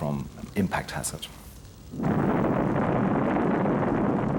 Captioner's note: explosion